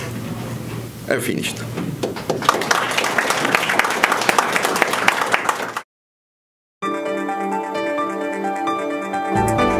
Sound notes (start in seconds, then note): 2.0 audience claps; 6.8 soft music